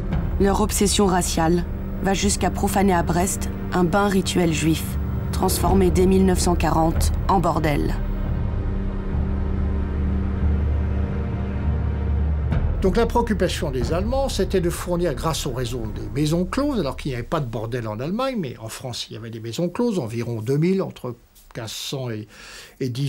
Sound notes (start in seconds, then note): 12.7 French spoken audio